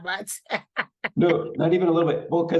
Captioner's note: laughing